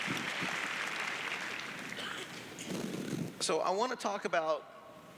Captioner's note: clapping; cheers